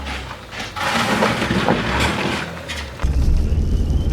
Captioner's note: more loud scrapping